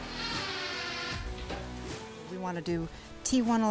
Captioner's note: drill whirring; upbeat music